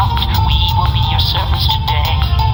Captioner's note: communicator beeps